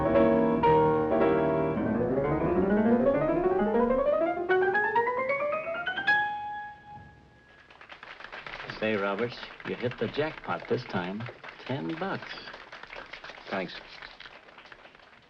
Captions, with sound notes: [piano playing stops] - [applause] - Say, Roberts. You hit the jackpot this time. Ten bucks. Thanks.